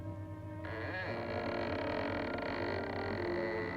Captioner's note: door creaking